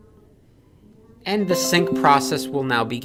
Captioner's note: computer dings